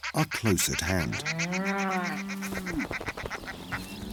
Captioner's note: distant mooing